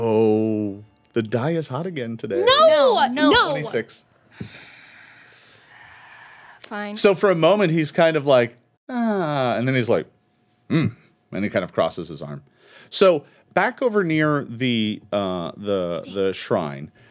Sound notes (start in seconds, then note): 11.1 grunts